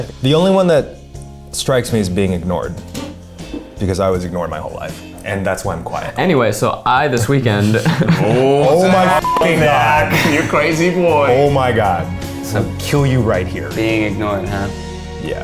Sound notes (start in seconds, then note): 7.1 laughs; 9.1 beep